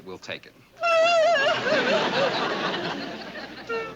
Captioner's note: sobbing